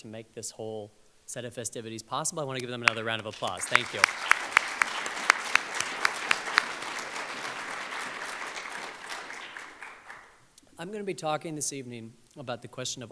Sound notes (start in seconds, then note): 4.4 audience applauds